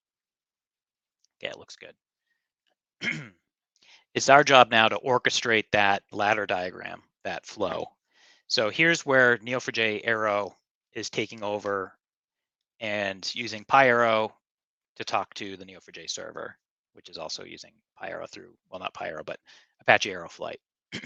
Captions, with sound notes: Okay, it looks good. (clears throat) It's our job now to orchestrate that ladder diagram, that flow. So here's where Neo4j Arrow is taking over and using PyArrow to talk to the Neo4j server, which is also using PyArrow through, well not PyArrow but Apache Arrow Flight.